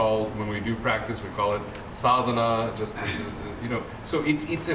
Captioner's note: non-english